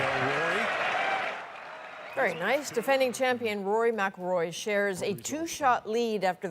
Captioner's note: cheers and applause